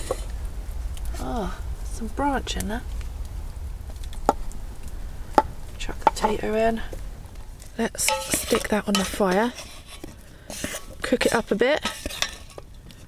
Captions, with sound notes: uhh.. some branch in there *chop* *chop* chuck the potato in let's stick that on the fire cook it up a bit!